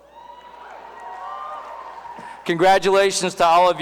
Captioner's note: cheering